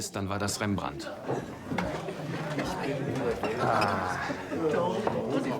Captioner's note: bustling crowd